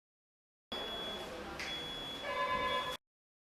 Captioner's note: quiet beeping, telephone rings